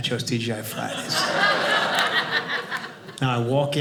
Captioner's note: audience laughing